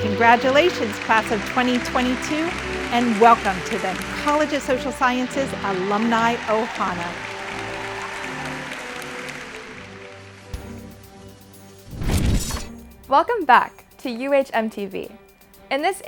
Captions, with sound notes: CONGRATULATIONS, CLASS OF 2022, [APPLAUSE] AND WELCOME TO THE COLLEGE OF SOCIAL SCIENCES ALUMNI 'OHANA. [CHEERING AND APPLAUSE] WELCOME BACK TO "UHMTV."